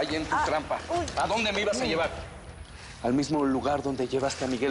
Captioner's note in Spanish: Quejidos de ella